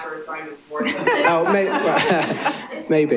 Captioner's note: laughing